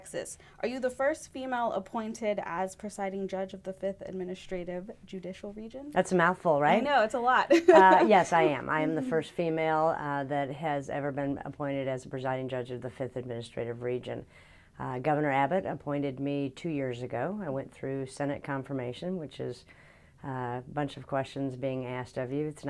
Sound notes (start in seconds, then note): 7.5 laughing